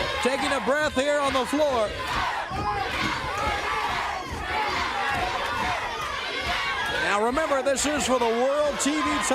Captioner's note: crowd cheering